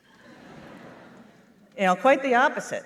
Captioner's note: laughter